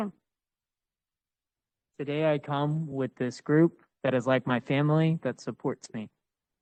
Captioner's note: speaking Spanish